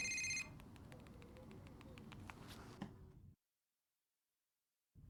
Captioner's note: cell phone keyboard tapping